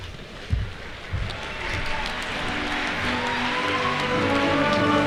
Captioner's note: applause